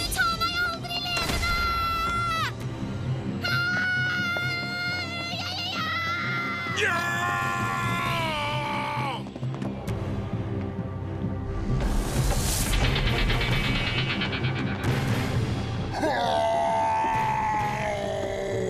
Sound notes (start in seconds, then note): 3.4 izzy shouts; 6.7 hatchet shouts; 16.2 growls